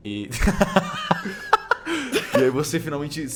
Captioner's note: laughs